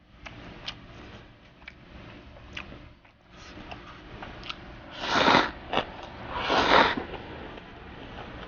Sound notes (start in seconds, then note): 4.7 slurping noodles X 14